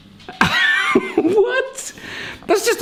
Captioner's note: laughs